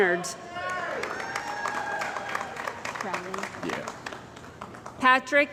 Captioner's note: cheering & Applause